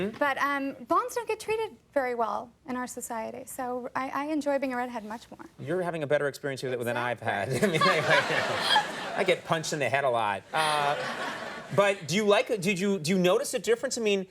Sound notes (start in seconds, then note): 7.5 audience laughing; 7.6 Amy laughing